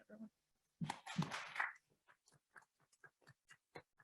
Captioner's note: audience claps